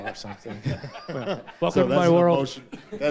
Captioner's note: all laugh